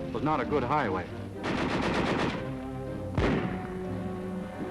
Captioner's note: guns firing